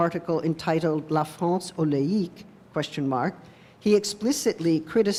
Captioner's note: french